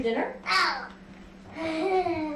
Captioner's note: sighs